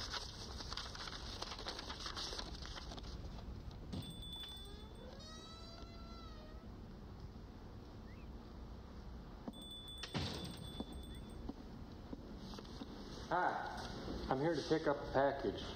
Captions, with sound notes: (bell ringing) (door creaking) Hi, I'm here to pick up a package.